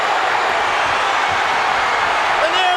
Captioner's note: crowd cheering